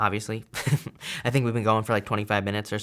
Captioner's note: chuckles